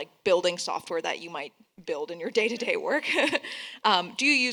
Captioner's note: laughs